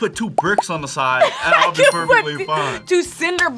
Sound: laughs

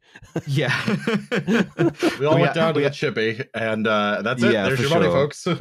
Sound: laughs

